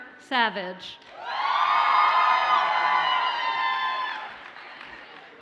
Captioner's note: audience cheers and applauds